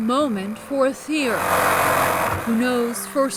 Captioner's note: tool loudly whirring